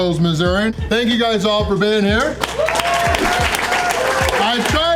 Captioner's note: crowd applause